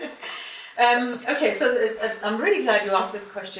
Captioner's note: laughing